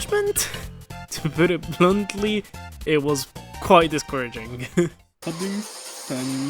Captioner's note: chuckle